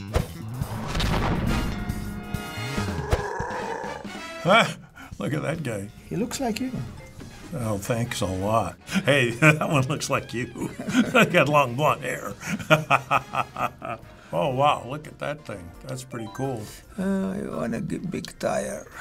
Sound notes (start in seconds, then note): 12.1 chuckling